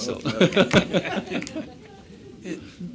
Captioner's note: laughter